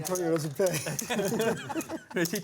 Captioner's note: laughter